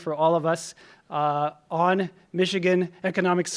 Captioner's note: none